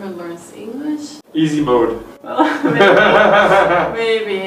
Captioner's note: both laugh